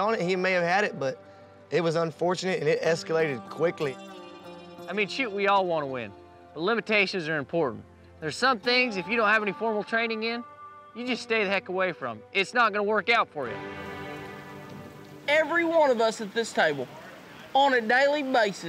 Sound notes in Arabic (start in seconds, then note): 13.4 هطول المطر